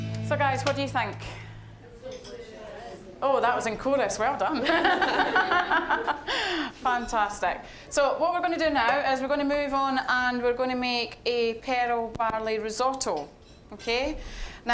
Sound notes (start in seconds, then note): 4.6 all laughing